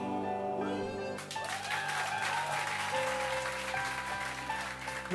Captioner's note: applause